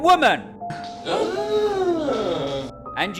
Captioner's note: gasps